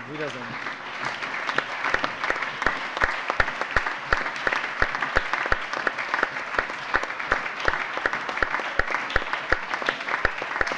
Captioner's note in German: Allgemeiner Beifall